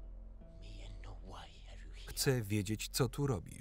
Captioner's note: speaking foreign language